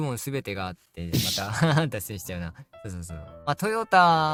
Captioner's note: laughs